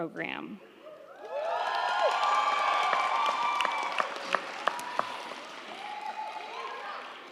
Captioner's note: crowd cheering; crowd clapping